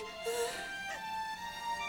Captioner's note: gasps